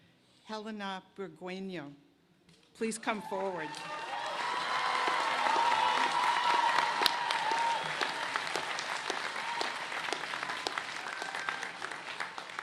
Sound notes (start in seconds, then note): 7.1 cheers and applause